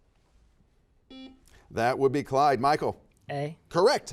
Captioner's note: buzzer beeps